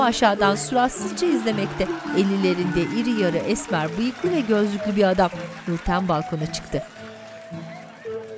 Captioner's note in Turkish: Fonda alkış sesleri